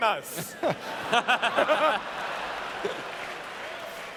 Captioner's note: laughter